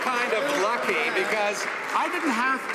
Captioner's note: some Applause